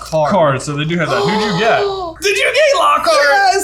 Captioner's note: gasping